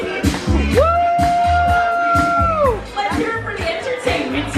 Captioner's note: players cheer